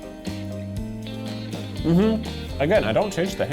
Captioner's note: humming